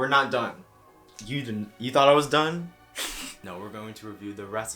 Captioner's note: snickers